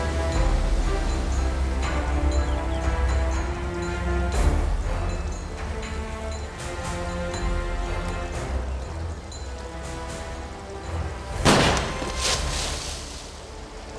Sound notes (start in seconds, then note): 11.4 gun fires